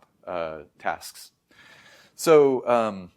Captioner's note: inhales deeply